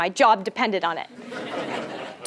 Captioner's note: laugh